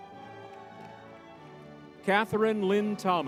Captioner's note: crowd cheering